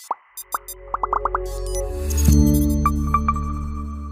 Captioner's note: logo chiming